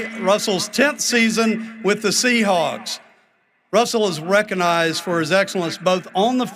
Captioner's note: cheering and applause